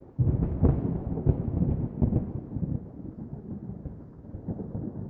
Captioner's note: thunder